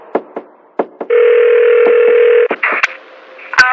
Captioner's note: phonene r ringigingn